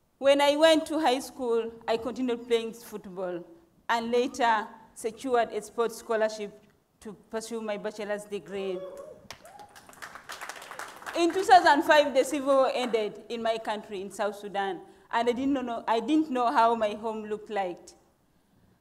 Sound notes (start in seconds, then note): 9.2 audience applauding